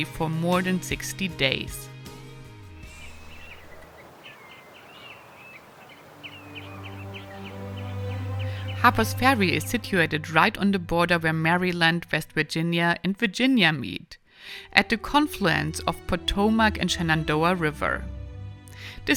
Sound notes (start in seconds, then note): 2.8 birds chirping; 6.4 gentle music